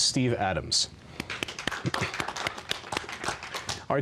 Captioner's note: applause